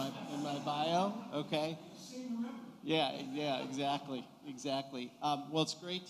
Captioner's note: laughter